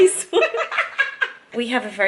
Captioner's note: laughter